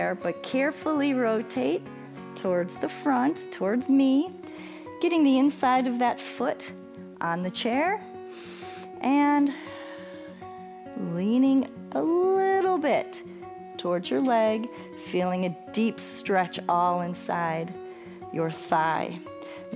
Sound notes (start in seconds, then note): 8.2 inhales